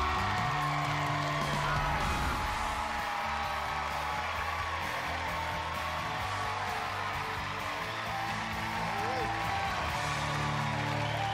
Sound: all cheering and applauding

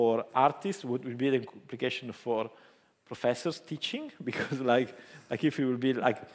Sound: chuckles

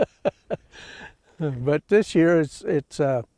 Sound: he laughs

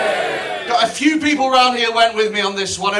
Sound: quiet Cheer

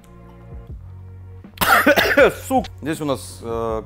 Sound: coughs

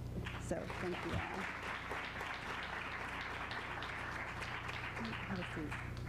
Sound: applause

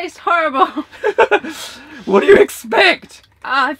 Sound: laughs

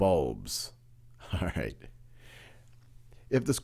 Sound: laughs

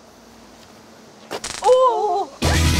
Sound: crack

